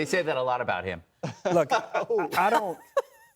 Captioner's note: laughter